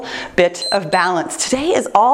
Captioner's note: timer beeps